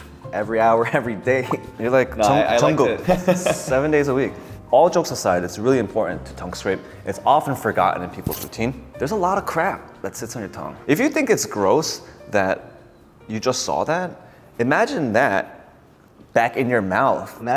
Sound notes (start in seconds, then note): 1.2 chuckling; 2.3 laughing